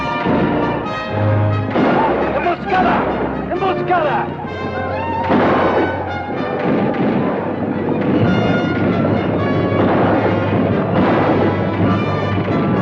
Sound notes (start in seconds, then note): 2.5 Apache speaks Spanish; 5.5 gun fires; 6.9 guns fire